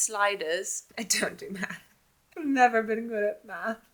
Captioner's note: chuckles